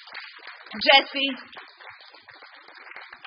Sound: applause

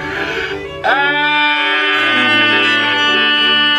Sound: yelling

